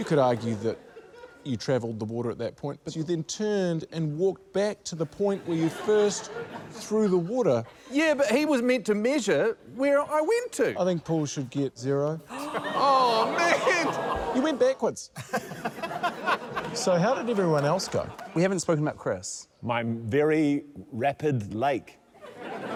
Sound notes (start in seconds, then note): 15.1 laughter; 22.1 laughter